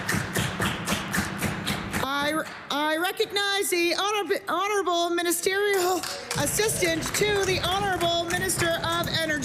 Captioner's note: applause